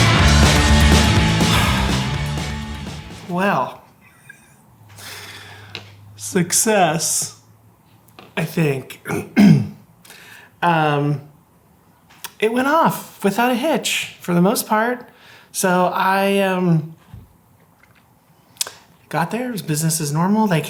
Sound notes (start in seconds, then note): 1.3 sighing; 4.5 laughing